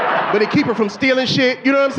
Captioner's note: audience laughing